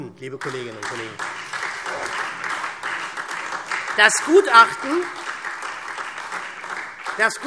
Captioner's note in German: Beifall SPD und vereinzelt DIE LINKE